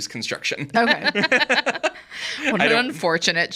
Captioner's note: group laughs